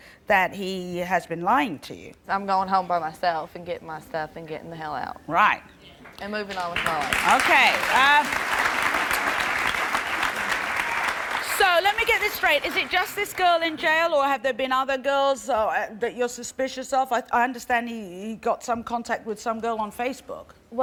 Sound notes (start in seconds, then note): 8.3 applause